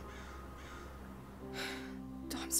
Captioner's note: sighing